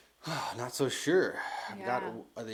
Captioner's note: sighs